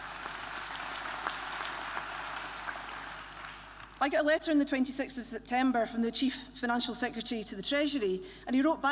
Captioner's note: applause